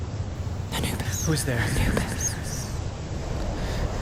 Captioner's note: while whispering continues